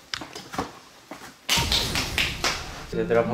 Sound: applause

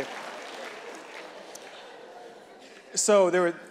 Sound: audience clapping and laughing

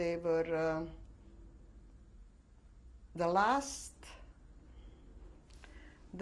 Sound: pauses for 3 seconds

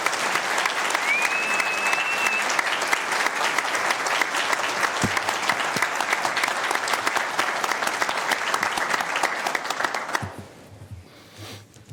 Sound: applause

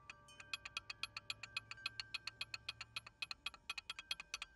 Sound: rattling

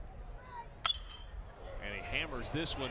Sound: crack of bat

